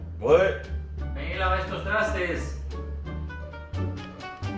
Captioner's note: en español